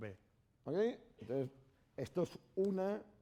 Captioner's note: speaking spanish